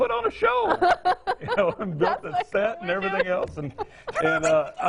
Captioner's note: laughing